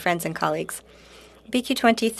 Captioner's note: speaking French